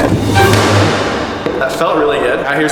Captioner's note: feet bang on wood